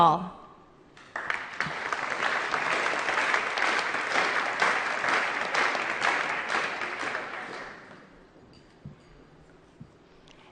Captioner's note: applause